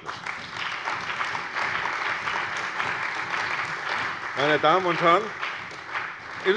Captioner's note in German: Beifall bei der CDU und dem BÜNDNIS 90/DIE GRÜNEN